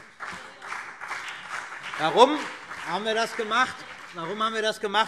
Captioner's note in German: Beifall BÜNDNIS 90/DIE GRÜNEN und vereinzelt CDU